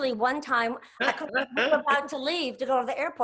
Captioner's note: laughs